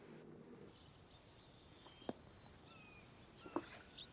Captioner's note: birds chirping